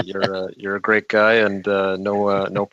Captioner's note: laughter